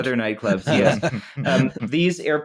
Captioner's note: laughter